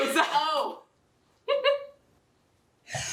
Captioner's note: laughter